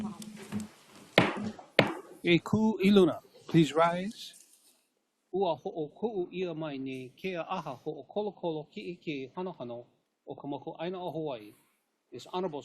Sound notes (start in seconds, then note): 1.7 gavel bangs once